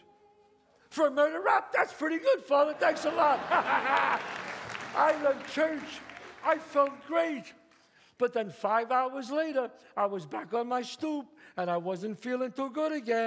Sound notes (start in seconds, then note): 2.6 laughs; 2.7 audience claps